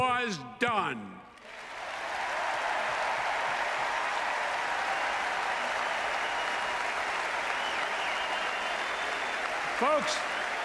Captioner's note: applause